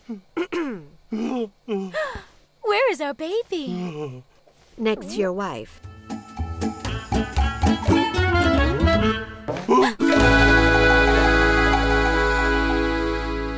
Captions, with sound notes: (clears throat) Where is our baby? Next to your wife. (gasp)